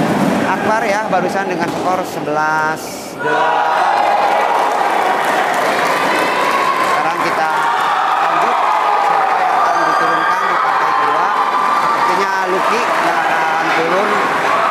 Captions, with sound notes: just now with a score of 11 [Applause] now we [Applause] I got